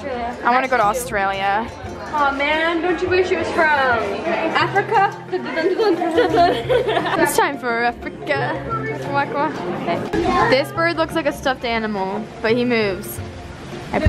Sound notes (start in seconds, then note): 4.8 laughs